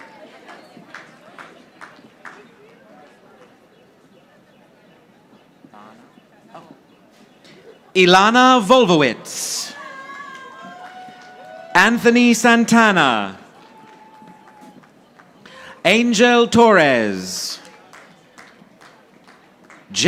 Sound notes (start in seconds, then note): 0.0 audience applauding; 9.8 audience applauding; 13.4 audience applauding; 17.6 audience applauding